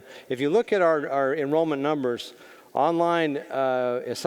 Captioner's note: none